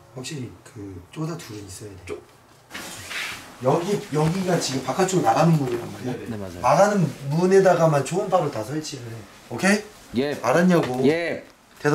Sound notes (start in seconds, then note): 2.7 the sound of opening the door